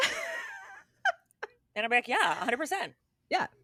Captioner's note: both Laughing